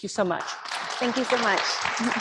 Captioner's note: applause